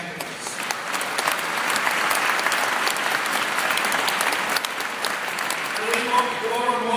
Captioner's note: applause